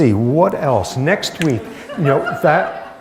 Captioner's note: laughter